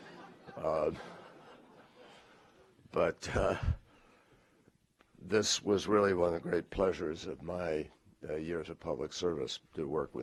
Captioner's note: laughter